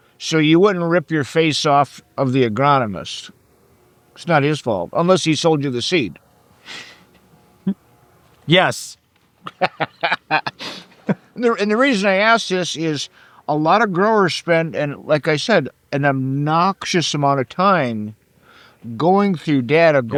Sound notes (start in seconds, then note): 9.4 chuckles; 9.4 laughing